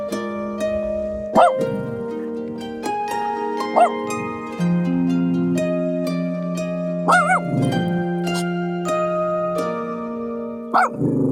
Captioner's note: dog barking